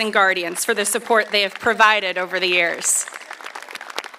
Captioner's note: applause